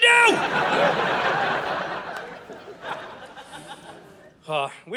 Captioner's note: audience laughing